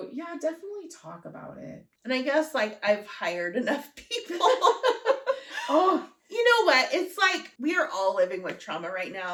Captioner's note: laughter